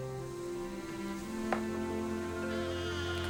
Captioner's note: sighs